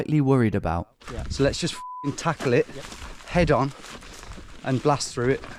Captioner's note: beep